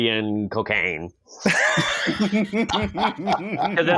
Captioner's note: bust out laughing